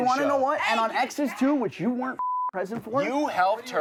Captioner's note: beep